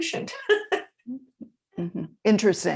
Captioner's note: laughs